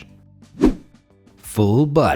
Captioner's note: air whooshing